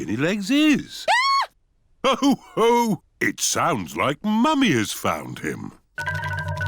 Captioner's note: mummy pig screams